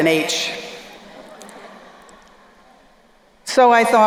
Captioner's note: crowd laughing